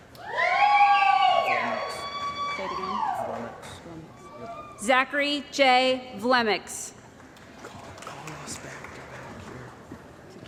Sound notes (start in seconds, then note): 0.2 cheering & Applause; 7.2 applause